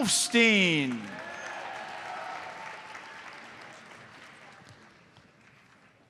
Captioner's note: audience cheers and applauds